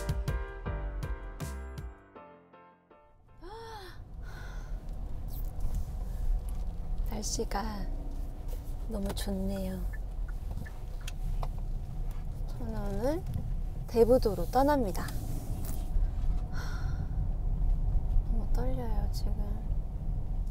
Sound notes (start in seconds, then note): 16.5 sigh